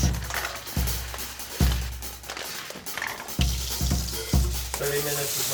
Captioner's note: rice crunches; water runs